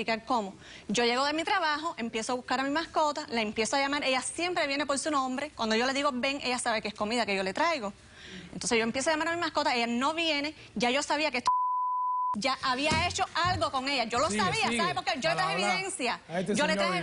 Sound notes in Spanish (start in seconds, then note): 11.4 Bip